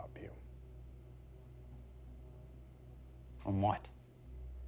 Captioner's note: crickets chirping; tense music; crickets chirping; tense music